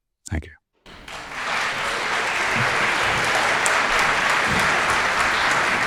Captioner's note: audience applauding